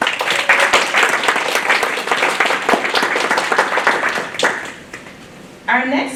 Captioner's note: applause